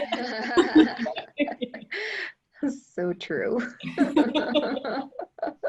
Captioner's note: laughter